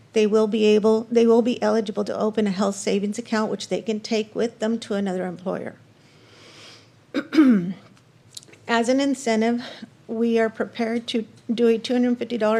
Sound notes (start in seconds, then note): 7.1 cough; 7.1 clears throat